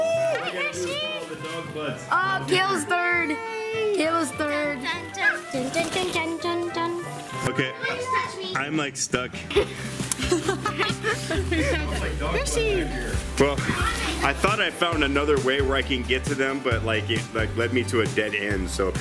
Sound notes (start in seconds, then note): 9.5 laughing